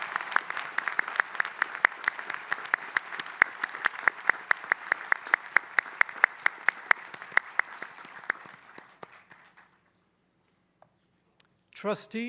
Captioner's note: applause